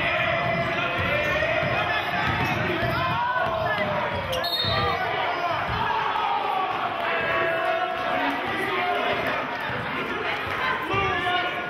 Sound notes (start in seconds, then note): 4.3 whistling; 7.2 yelling and applauding